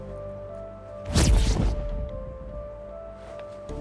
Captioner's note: zapping